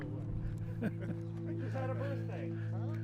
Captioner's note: chuckling